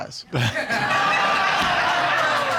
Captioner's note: laughter